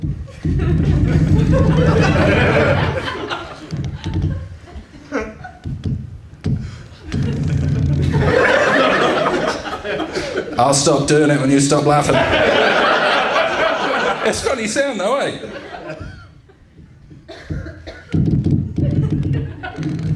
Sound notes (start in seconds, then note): 0.2 very weird mic nosies; 7.0 twisting, thudding ominous mic noises; 18.1 the mic noises continue